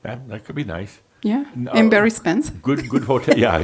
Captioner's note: she chuckles